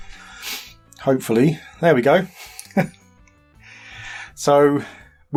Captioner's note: laughter